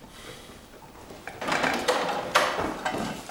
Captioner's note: door opens